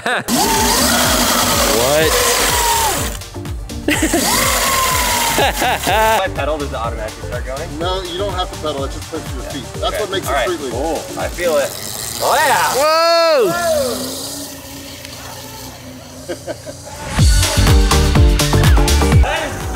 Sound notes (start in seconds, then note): 0.3 electrical whirring; 3.8 laughing; 14.9 whirring fading; 16.0 laughing; 17.0 rock music